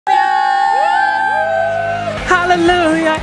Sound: cheering

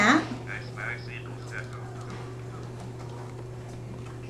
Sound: calculator Sounds

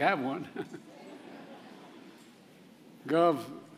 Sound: laughter

